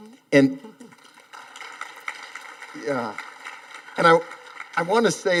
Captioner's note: audience applauding